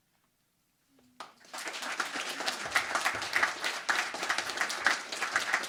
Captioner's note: crowd applauding